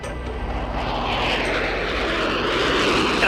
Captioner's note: plane passing